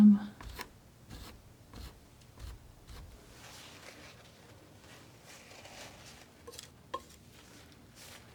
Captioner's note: scratching